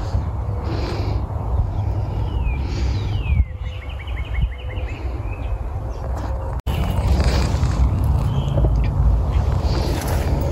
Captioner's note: faraway car, birdsong